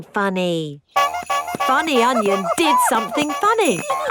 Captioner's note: shoes honking